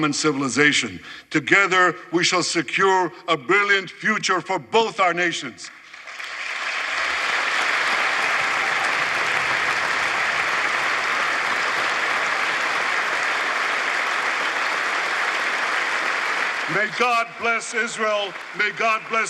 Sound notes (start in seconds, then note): 13.2 applause